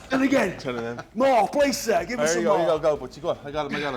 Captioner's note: laugh